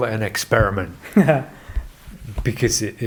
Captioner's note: laughs